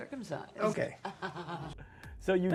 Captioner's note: laughs